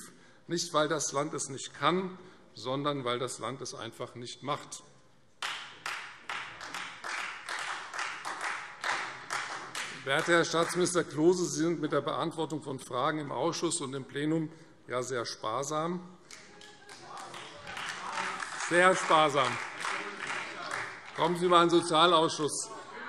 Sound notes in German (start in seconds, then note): 5.4 Beifall Freie Demokraten und vereinzelt SPD